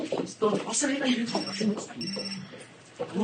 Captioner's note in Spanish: Suena el celular